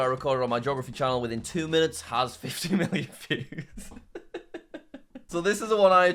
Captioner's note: laughs